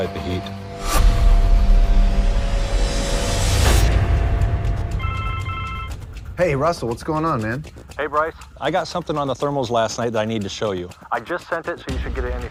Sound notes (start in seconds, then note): 0.2 suspenseful music playing; 4.9 phone rings